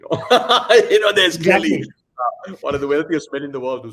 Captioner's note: laughs